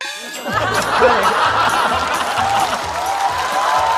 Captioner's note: laughter